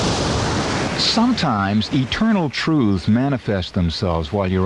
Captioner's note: waves breaking; waves breaking continues